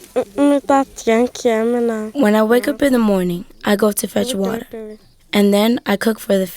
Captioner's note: speaking in a foregin language